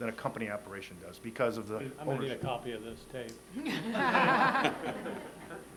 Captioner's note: laughter